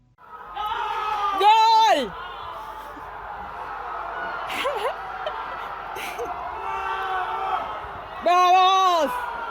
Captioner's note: cheering noises, i recommend turning your volume up for a better experience